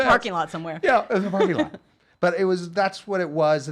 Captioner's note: laughing